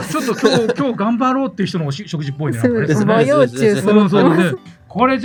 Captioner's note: laughs